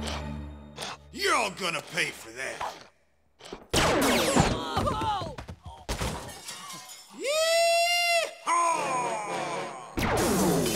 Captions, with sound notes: Y'all gonna pay for that! (laser blast) (screaming) Yeee Haaaaw!